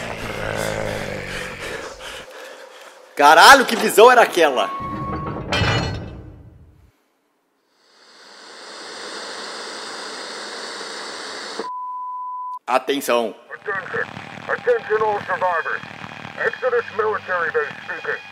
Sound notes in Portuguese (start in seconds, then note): 4.7 fechando uma porta de ferro grande; 6.1 barulho da tv